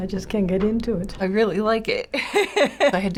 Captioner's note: laughing